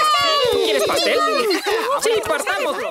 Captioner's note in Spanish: se ríe